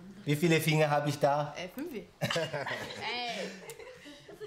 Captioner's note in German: lacht